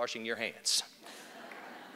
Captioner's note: laughter